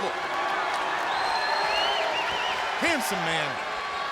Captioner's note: applause